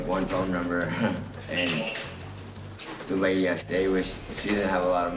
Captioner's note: chuckling